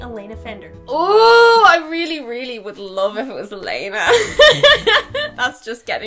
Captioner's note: laughing